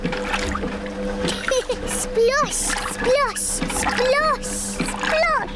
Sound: machine rumbles; giggles

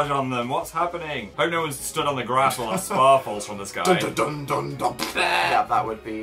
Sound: laughs

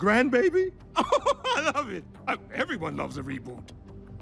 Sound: laughs

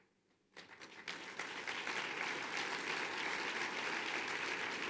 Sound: applause

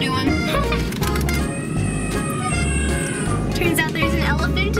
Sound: elephant trumpets

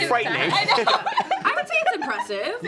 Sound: laughs

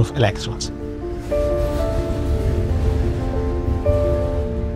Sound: train rustling

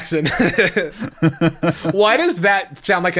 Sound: chuckles

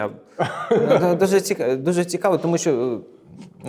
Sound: laughing

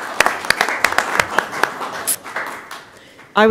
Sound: applause

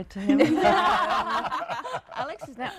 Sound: laughing

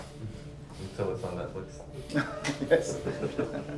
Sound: chuckles

